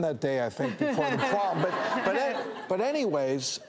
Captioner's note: audience laughs